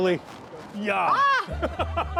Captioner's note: shouts; both laughing